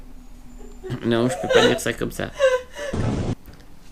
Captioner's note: laughs